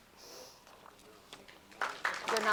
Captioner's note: applause